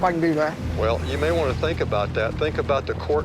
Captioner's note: on phone